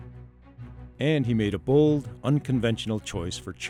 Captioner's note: voiceover